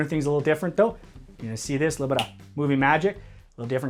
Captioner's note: snaps